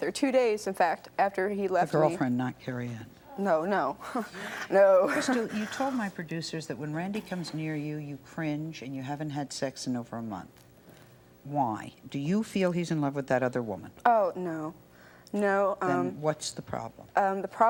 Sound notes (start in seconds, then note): 4.9 laughs